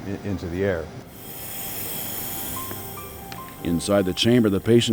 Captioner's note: oxygen hissing